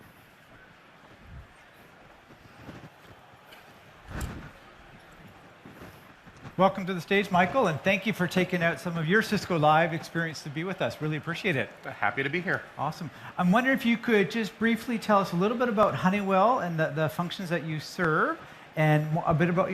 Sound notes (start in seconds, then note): 5.0 applause